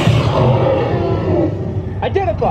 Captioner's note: dinosaur roars